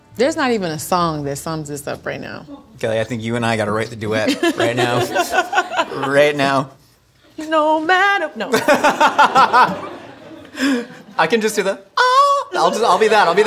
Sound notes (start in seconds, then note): 8.5 laughing